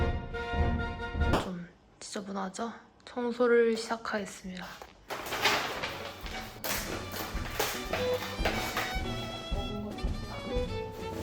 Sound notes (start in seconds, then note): 6.5 crumple